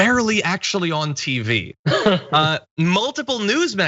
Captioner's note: laugh